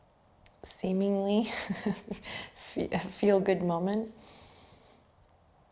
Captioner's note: chuckles